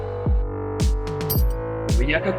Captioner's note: the clang of a knife blade